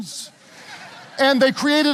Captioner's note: audience laughing